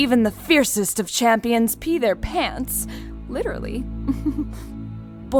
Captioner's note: soft chuckle